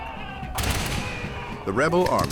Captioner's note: gunshots firing